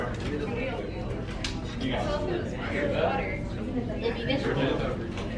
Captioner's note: students conversing